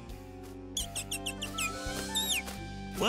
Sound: chirping

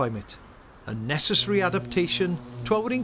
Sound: bee buzzing

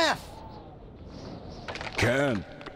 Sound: branch breaking

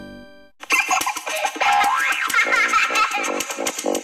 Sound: kid laughs

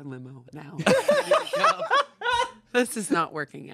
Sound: everyone laughs

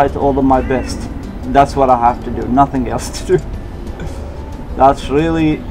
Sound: laughs

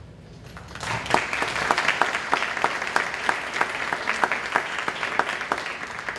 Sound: applause

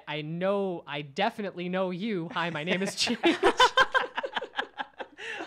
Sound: laughs

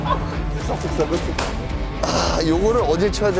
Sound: the sound of losing his temper

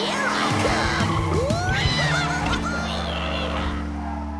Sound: cheering

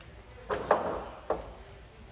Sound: people talking; thunks; people talking

